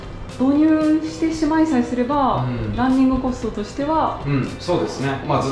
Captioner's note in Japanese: 低い